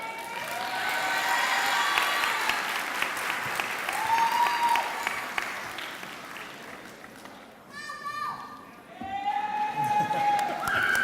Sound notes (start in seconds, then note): 1.6 clapping